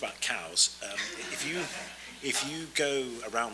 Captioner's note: audience laughs